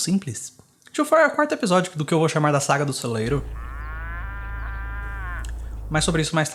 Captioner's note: muuu